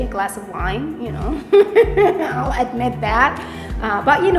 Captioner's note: laughs